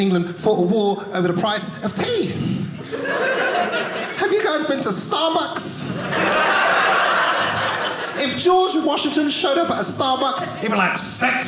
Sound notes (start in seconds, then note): 2.8 audience laughing